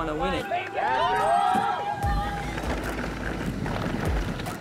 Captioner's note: all cheering